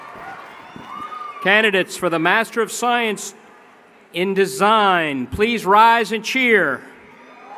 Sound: chring and Applause

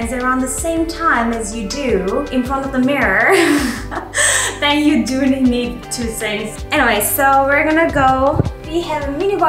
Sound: laughing

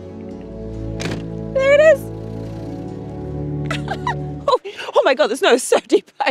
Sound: laughs

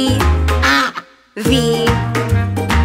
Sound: duck quacks

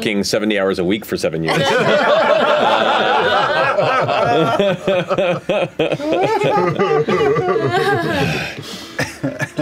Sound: laughter

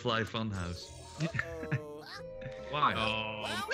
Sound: laugh

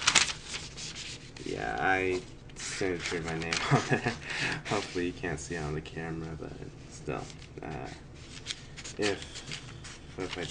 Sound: page rustling

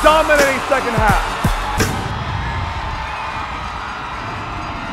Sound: cheering

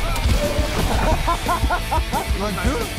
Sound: laughs

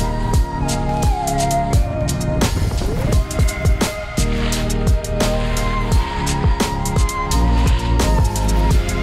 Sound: wave sounds

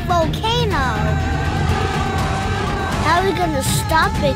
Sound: dinosaur roaring

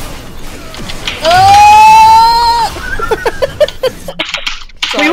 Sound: hahahhaha

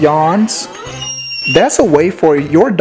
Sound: dog yawns

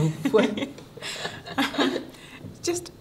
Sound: both laugh

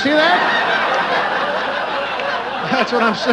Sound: laughter

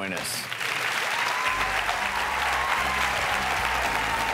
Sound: applause

